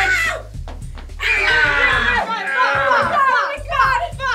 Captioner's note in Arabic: الجميع يصرخون